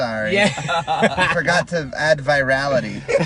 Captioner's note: laughing